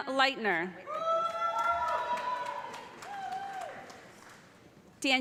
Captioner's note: cheers and applause